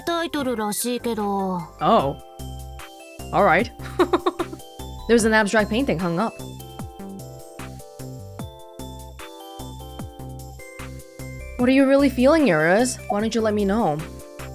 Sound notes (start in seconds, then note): 3.8 chuckles